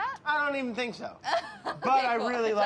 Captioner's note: laughs